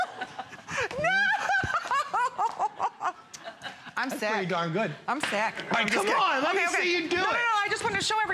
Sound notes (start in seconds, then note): 0.0 laughter